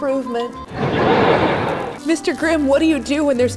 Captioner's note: canned laughter